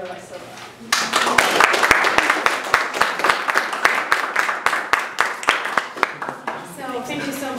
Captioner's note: applause